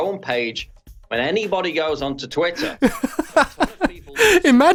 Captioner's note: laughing